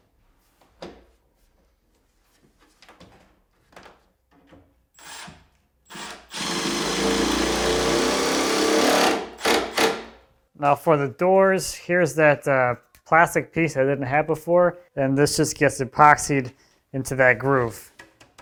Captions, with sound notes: (drill whirring) Now for the doors, here's that plastic piece I didn't have before, and this just gets epoxied into that groove.